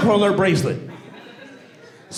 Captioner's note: audience laughing and cheering